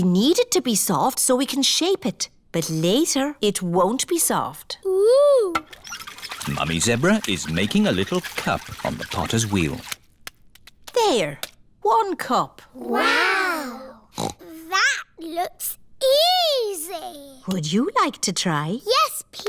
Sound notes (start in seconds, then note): 14.1 snorts